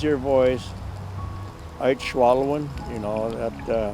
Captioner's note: speaking Native language